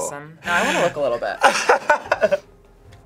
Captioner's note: laughs